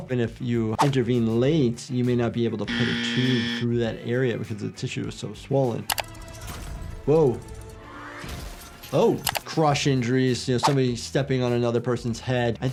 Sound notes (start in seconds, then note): 6.5 glass shatters; 6.5 tense music